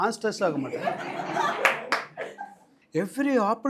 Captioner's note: audience laughs and claps